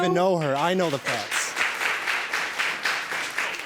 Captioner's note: audience clapping